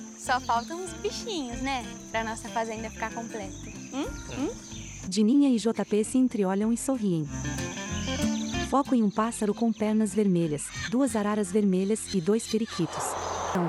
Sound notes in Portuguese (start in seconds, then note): 4.8 Pássaros